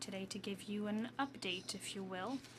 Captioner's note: speaking French